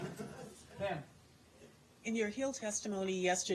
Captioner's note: laughter